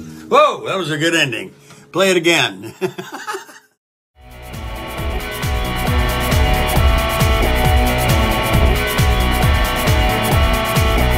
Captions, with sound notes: Whoa! That was a good ending. Play it again. (laughs) (upbeat music)